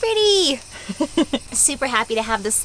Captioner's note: giggling